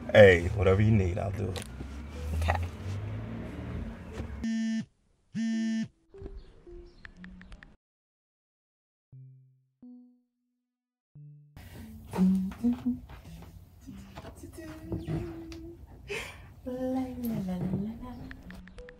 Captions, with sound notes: - Hey, whatever you need, I'll do it. - Okay. (phone buzzing) (Leanne humming)